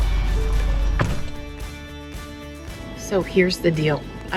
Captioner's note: upbeat music; door clatters